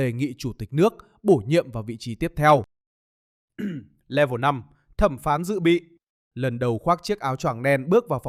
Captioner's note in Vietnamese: hắng giọng